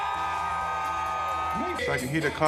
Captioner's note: crowd cheering